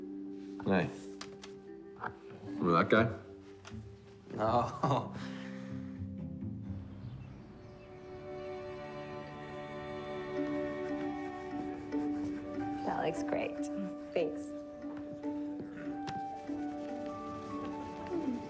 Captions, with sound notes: Hey. Remember that guy? (chuckling) - No. (birds chirping) - That looks great. - Thanks.